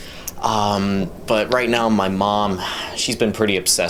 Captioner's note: sighs